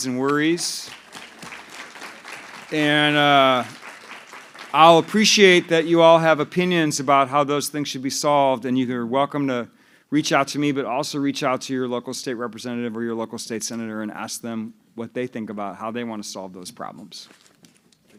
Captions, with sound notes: and worries. [APPLAUSE] And I'll appreciate that you all have opinions about how those things should be solved. And you're welcome to reach out to me, but also reach out to your local state representative or your local state senator and ask them what they think about how they want to solve those problems.